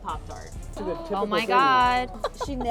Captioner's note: background talking